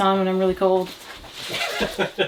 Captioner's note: laughs